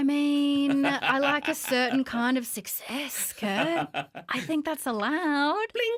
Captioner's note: laughter